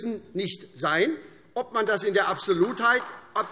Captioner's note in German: Beifall SPD